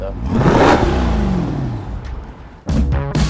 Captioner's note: engine revs; lively band music